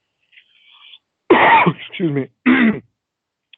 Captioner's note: coughing